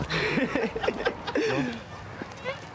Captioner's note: laughs